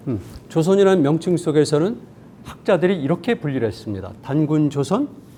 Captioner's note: speaking in Korean